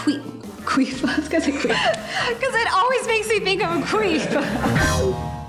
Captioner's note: laughing